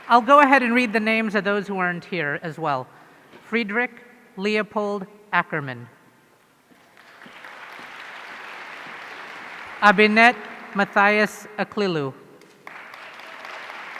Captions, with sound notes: I'll go ahead and read the names of those who aren't here as well. Friedrich Leopold Ackermann. (audience applauding) Abinet Mathias Aklilu.